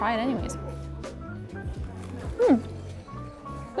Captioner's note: food crunching